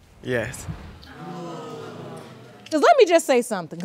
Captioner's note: audience gasps